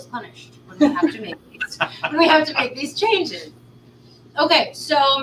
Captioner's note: laughter